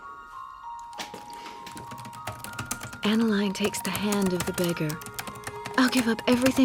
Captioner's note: typing resumes